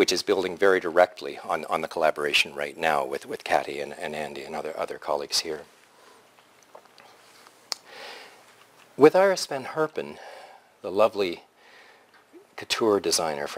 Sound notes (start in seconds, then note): 5.9 pause